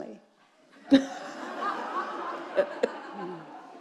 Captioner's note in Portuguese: risos da plateia